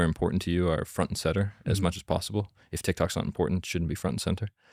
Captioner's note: none